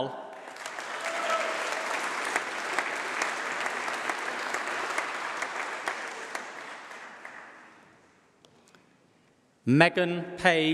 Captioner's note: applause